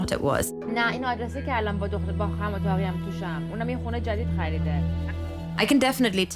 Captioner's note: speaking in foreign language